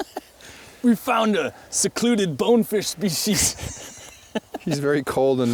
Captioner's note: laughs